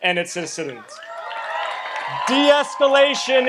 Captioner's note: audience applauds and cheers